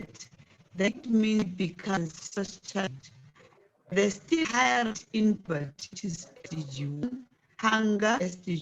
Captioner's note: distorted audio